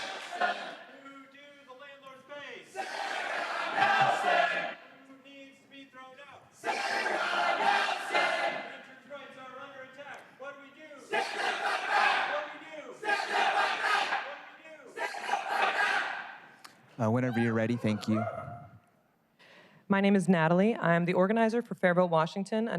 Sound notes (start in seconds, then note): 6.2 crowd chanting